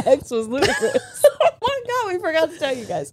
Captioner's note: all laughing